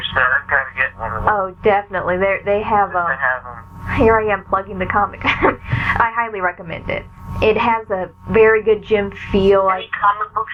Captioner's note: laughs